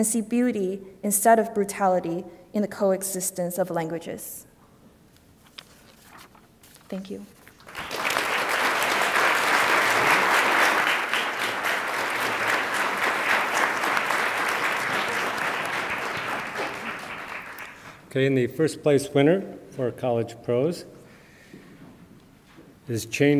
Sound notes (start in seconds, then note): 8.5 attendees applauding